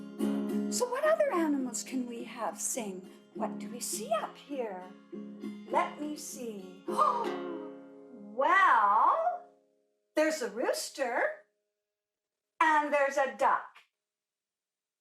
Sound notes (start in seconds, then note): 7.0 gasps